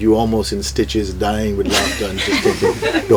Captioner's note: laughter